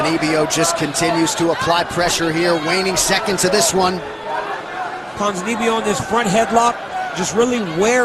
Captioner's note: cheers and applause